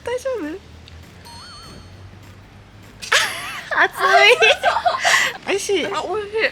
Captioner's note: laughs